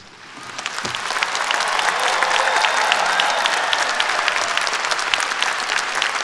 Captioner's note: cheers & Applause